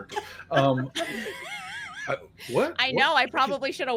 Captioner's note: laughs